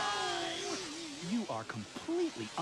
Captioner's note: both groaning